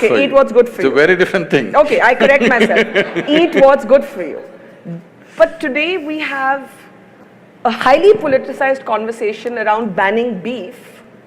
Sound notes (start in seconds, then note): 2.2 Sadhguru laughs; 2.2 laughs